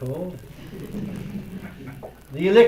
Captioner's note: laughter